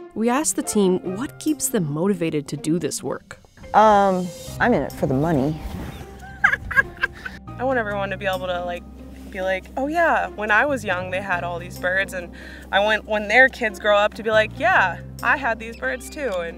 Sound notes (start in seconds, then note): 6.2 laughing